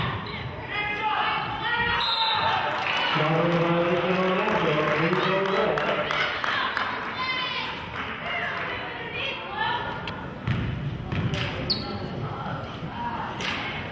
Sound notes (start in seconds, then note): 1.9 whistle blows; 5.3 clapping